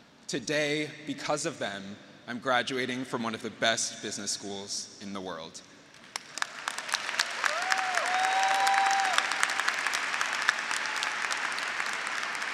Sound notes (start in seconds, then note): 6.0 graduates applauding; 6.6 graduates cheering